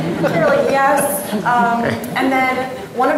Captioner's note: audience laughing